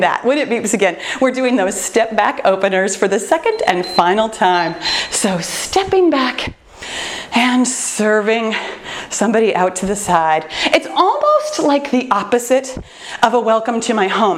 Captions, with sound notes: When it beeps again, we're doing those step back openers for the second and final time. [timer beeps] Stepping back and serving somebody out to the side. It's almost like the opposite of a welcome to my home